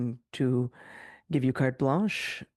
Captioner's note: speaking French